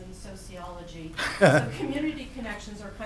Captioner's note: speakers laughing